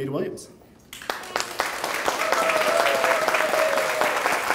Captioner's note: clapping